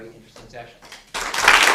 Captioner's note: applause